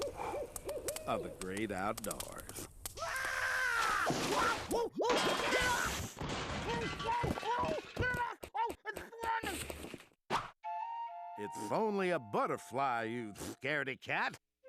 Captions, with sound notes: OF THE GREAT OUTDOORS. [screaming] [clanging] OH, OH, GET IT OFF! OH, IT'S FLYIN'! IT'S ONLY A BUTTERFLY, YOU SCAREDY-CAT.